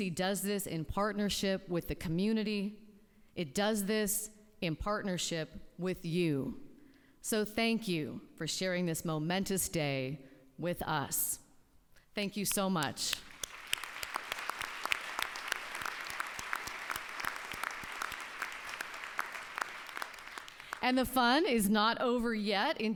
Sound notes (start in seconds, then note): 15.5 applause